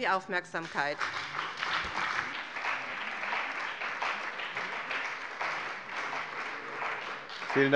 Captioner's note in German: Beifall bei dem BÜNDNIS 90/DIE GRÜNEN und der CDU